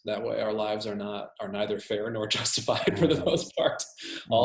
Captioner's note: laughs